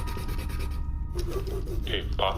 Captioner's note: sound of scribbling